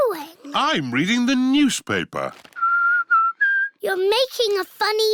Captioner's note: whistles